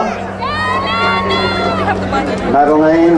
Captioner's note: crowd cheering